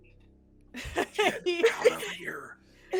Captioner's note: everyone laughs